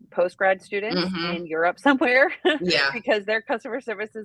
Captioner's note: laughs